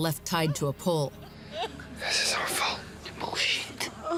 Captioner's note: speaker sobs